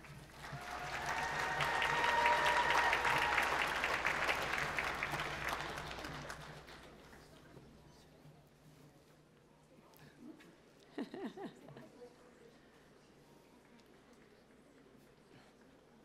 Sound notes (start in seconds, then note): 0.0 applause